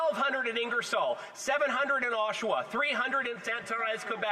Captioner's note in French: voix de l'interprète